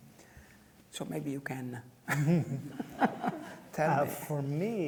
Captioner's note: laughs